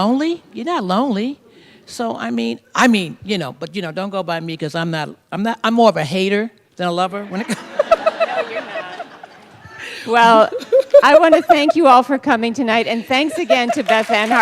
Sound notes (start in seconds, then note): 7.3 laughter; 10.7 continued laughter